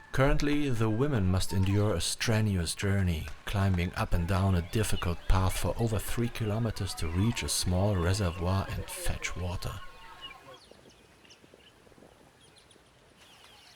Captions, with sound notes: Currently, the women must endure a strenuous journey, climbing up and down a difficult path for over 3 kilometers to reach a small reservoir and fetch water. [BIRDS CHIRPING]